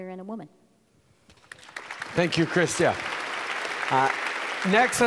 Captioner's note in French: Applaudissements